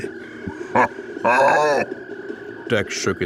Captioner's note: Dex laughs